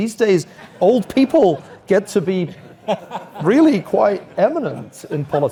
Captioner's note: laugh